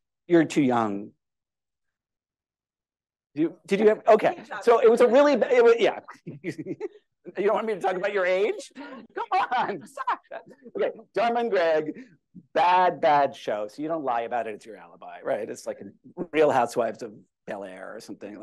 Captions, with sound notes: You're too young. Did you? [LAUGHTER] You don't want me to talk about your age. Come on. Dharma and Greg, bad show. You don't lie about it, it's your alibi. It's like "The Real Housewives of Beverly Hills" or something,